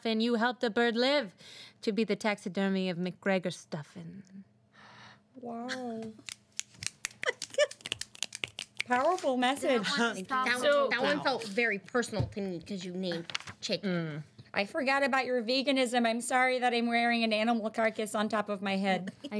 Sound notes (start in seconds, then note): 6.2 snapping fingers